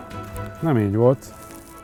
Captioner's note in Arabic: يتحدث المجرية